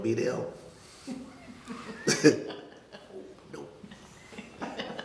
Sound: all laughing

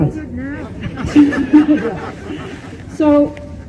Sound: laughter

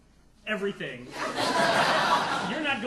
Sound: audience laughing

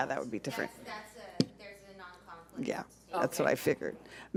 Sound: speaking faintly

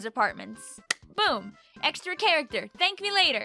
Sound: claps

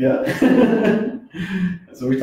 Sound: laughs

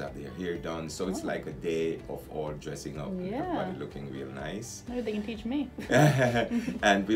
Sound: laughs

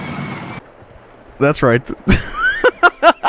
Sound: chuckling

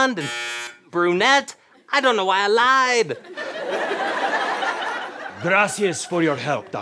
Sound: buzzing

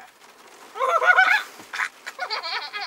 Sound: starts raining heavily

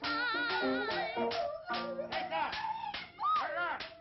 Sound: dog Yelping; whipping Noise

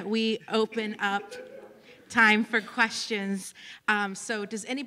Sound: laughter

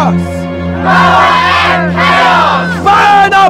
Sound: crowd

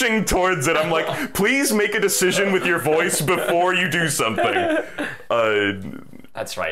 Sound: laughing

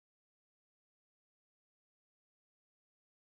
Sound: none

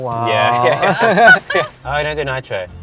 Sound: laughter

